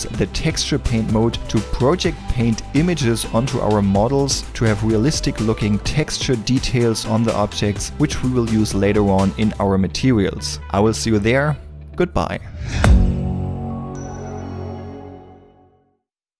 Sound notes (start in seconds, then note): 12.4 exploding; 13.9 dinging